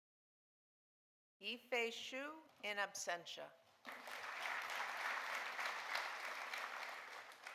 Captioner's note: audience applauding